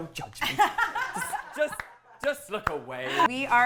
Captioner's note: laughs